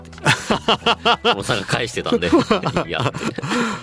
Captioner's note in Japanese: 笑い